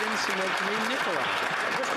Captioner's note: some Applause